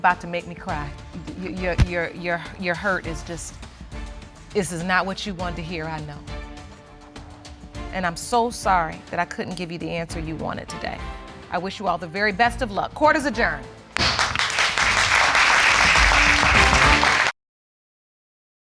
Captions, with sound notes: Oh, honey, you're about to make me cry. Your hurt is just... This is not what you wanted to hear, I know. And I'm so sorry that I couldn't give you the answer you wanted today. I wish you all the very best of luck. Court is adjourned. (AUDIENCE APPLAUDING)